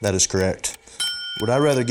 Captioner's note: ding